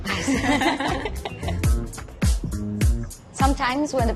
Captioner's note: laughter